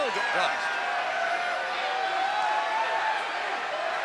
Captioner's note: crowd cheering